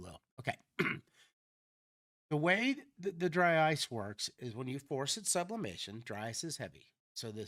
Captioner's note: clears throat